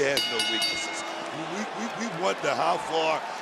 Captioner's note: bell rings